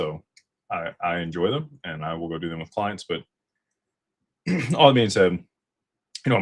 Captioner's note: clears throat